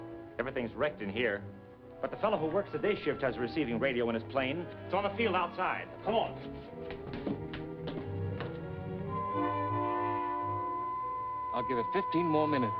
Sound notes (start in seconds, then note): 9.1 beeping